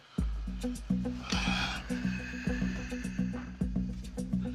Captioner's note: sighing; tense music